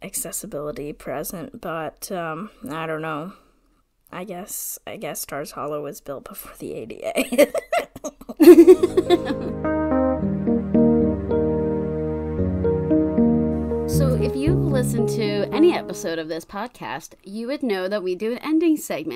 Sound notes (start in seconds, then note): 7.4 laugh; 8.9 transition music